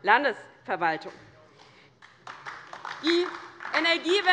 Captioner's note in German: Beifall DIE LINKE